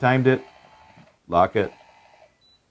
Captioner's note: lock whirring